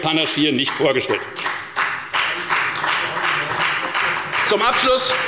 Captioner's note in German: Beifall bei der FDP